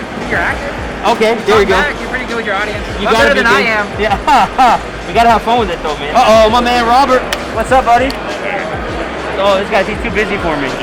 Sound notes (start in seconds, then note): 4.0 both laugh